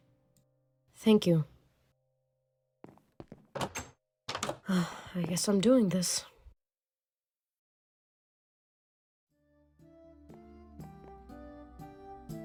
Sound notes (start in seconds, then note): 4.6 sighs